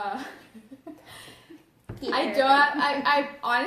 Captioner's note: laughs